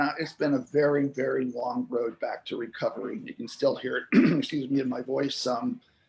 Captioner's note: clearing throat